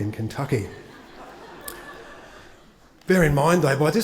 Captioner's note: attendees laugh